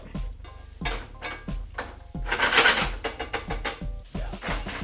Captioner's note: metal clanging